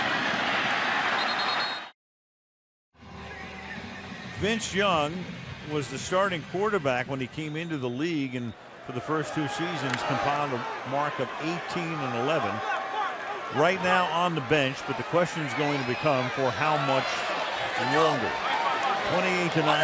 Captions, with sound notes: [cheering] [whistle] Vince Young was the starting quarterback when he came into the league and for the first two seasons compiled a mark of 18 and 11. Right now on the bench. But the question is going to become, for how much longer?